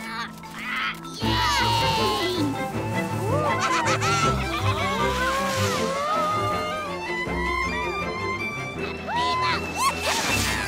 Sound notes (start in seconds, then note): 4.9 screams